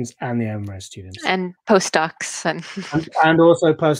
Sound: chuckling

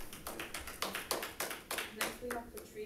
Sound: audience applauding

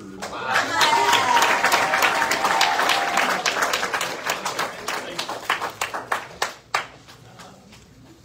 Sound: audience cheers and applauds

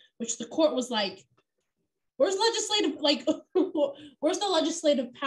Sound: laughter

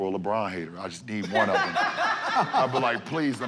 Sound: laughter

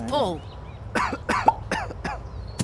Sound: coughs

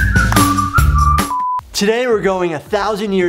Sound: beeping

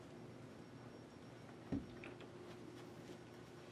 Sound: quietly closes door

